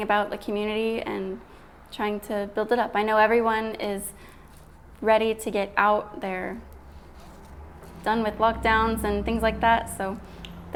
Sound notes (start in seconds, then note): none